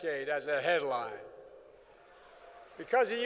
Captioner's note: applause